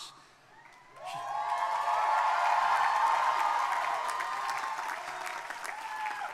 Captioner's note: crowd cheering; crowd applauding